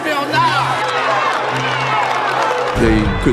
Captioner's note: cheering